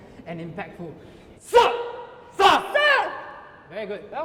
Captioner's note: shouts